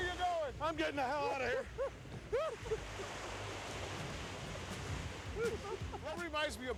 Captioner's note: laugh